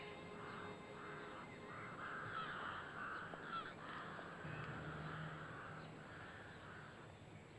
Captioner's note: crows squawking